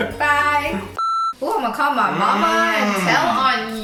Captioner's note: groans